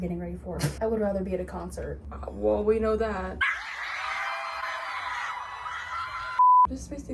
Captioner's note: me screaming at a concert